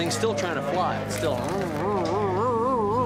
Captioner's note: buzzes